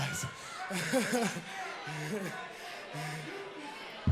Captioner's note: crowd chatter